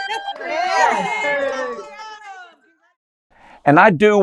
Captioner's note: cheering